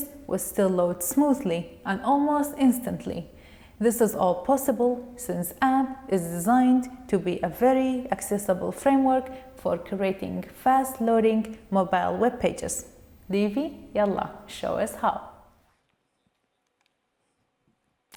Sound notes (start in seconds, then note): 13.6 non-english speech